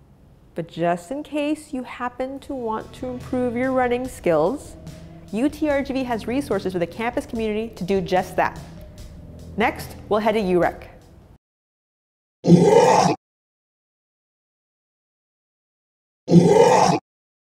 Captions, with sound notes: But just, just in case, you happen want to improve your running skills, UTRGV has resources for the campus community to do just that. Next, we'll head to UREC. (Growl) (Growl)